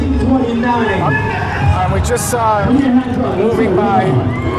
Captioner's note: cheers and applause